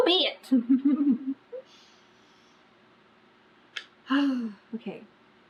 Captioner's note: laughs